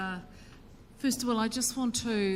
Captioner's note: speaks in foreign language